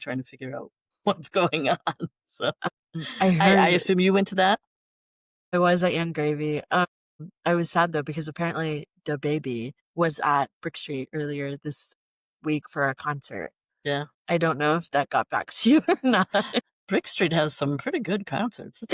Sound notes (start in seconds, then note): 1.2 laughter; 15.8 laughter